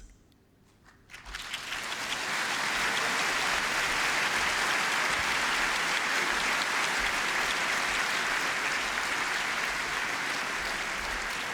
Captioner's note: applause